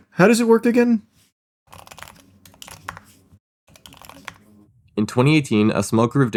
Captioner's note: typewriter sounds